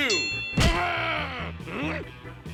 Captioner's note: ding; groaning